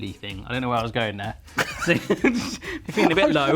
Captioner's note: laughing